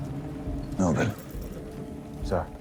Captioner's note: horse whinnies